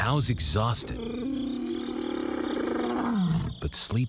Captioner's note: lion roaring